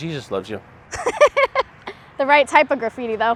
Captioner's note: laughs